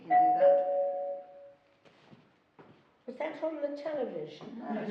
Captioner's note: doorbell ringing